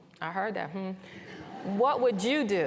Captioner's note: laughter